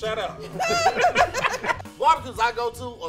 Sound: laughing

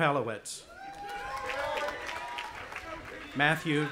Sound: audience applauding and cheering

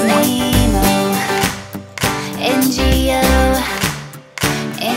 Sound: Wally claps

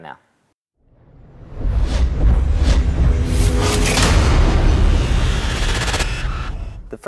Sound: sound effect

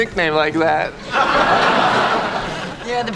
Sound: audience laughing

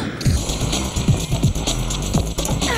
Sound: blast

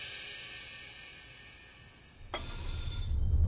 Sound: clinking

